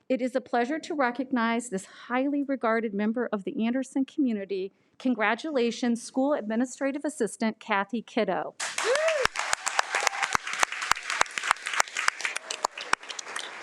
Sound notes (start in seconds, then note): 8.6 audience applauding